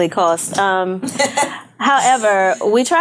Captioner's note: laughing